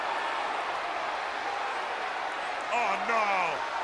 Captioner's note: crowd chatter